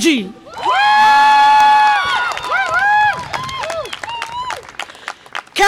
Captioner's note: audience applause and cheer